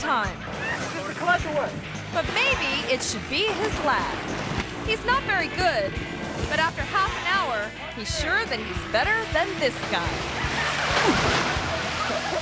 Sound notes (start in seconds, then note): 10.4 water splashes; 11.5 body thumps; 11.5 man grunts